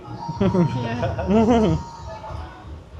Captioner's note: laughter